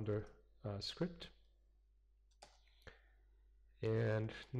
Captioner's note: pause